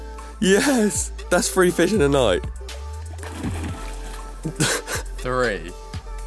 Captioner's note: laughs